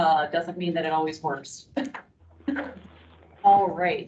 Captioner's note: chuckles